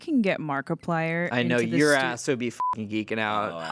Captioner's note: beep